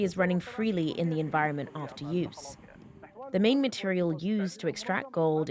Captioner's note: speaking alternate language